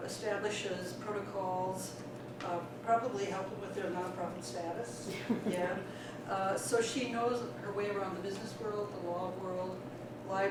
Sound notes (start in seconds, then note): 5.0 laughter